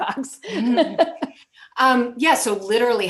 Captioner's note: laughter